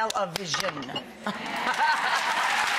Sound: laughs; audience applaud

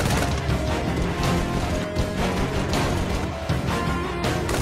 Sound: gunshots

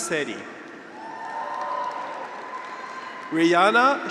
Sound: graduates cheer

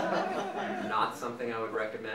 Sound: audience laughing

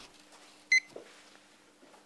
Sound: beeping

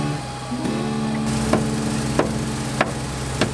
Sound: banging

